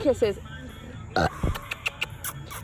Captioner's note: burps and makes kissing noises